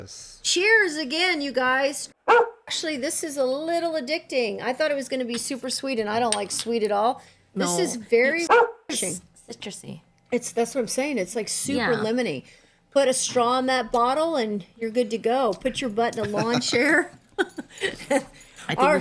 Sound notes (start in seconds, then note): 2.2 bark